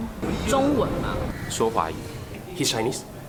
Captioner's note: participants speaking in foreign language